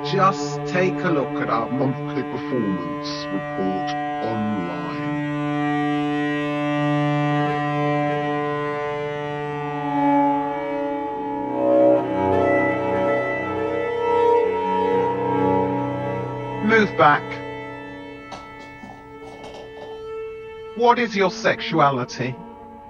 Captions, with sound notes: Just take a look at our monthly performance report online. (solemn music continues) Move back. (footsteps plodding) What is your sexuality?